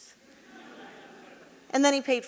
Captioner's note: audience laughing